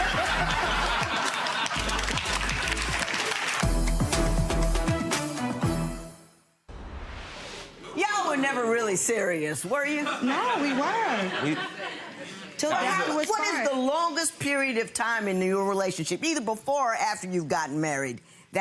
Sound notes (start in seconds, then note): 0.0 spectators laughing; 0.0 spectators clapping; 4.0 energetic music; 6.8 air whooshes